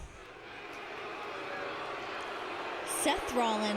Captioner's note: crowd boos